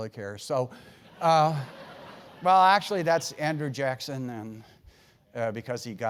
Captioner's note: laugh